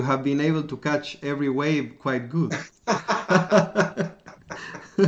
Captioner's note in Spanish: Risas